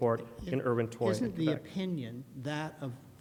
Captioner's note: voiceover